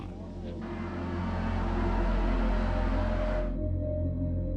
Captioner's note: cheering